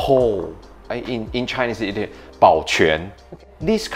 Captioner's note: speaks in Chinese